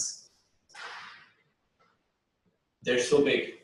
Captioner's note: pause